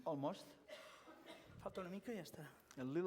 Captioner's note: non-english speech